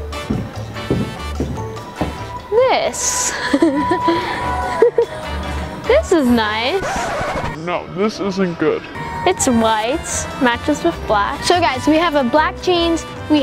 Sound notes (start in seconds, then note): 0.0 heavy stepping; 3.2 laughing; 6.7 record scratching